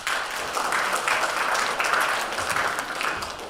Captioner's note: applause